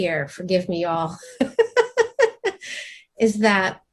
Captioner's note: laughs